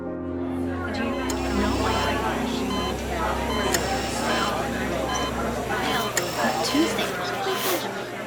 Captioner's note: women talking